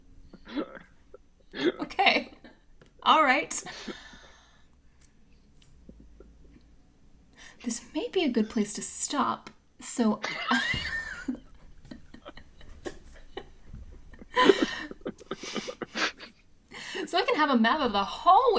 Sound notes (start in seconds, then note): 3.7 cast laughs